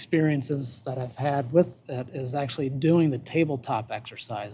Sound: none

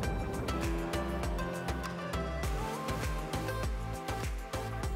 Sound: water burbles; engine purrs as upbeat music continues

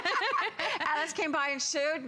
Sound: laughter

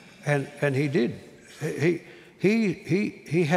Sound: none

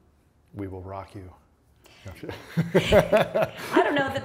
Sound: laughs

